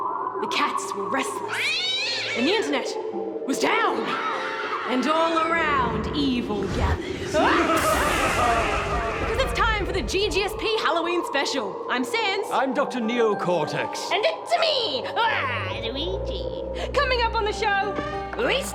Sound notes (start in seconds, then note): 1.4 cat screeches; 4.0 screaming; 7.2 both laugh maniacally